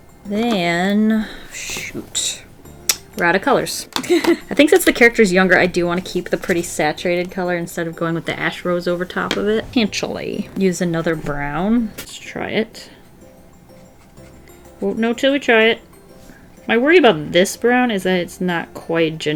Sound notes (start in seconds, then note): 4.0 laughs